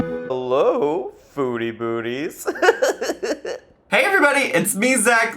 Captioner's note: bright game music; laughing